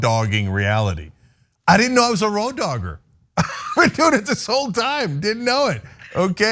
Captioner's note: laugh